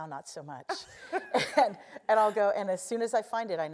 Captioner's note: laugh